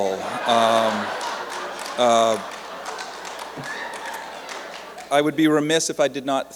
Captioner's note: laughter and applause